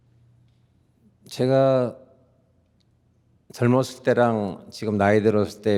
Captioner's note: speaking in Korean